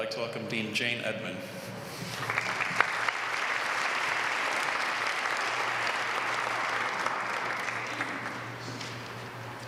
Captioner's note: applause